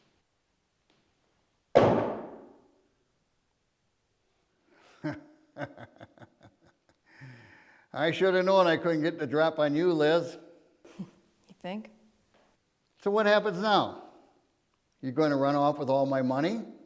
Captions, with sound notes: (gun clunks) (Keg laughs) - I should've known I couldn't get the drop on you, Liz. - (chuckles) You think? - So what happens now? You gonna run off with all my money?